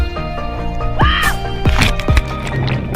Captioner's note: scream